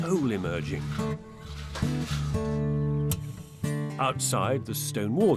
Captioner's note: float scraping; mellow guitar music